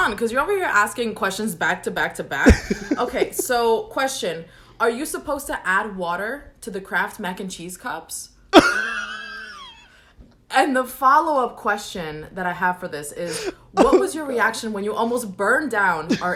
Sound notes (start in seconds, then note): 2.4 laughs; 8.5 laughs